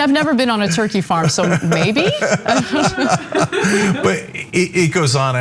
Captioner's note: laugh